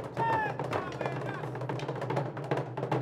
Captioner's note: shouting in language other than English; drums beating